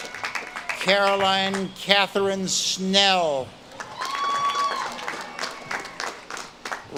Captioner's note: audience claps and cheers